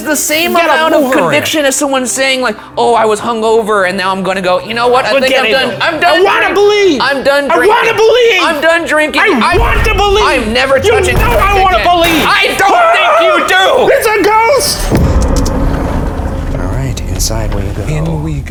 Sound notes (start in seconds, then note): 12.1 screaming; 15.3 tense music